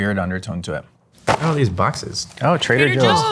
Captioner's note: boxes thumping